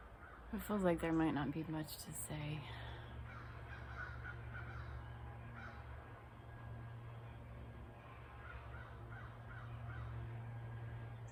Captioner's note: birds chirping